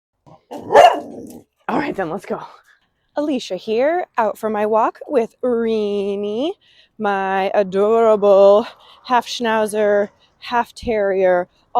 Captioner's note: dog bark